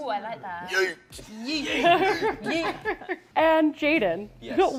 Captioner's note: laughter